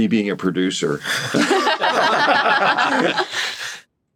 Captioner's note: laughing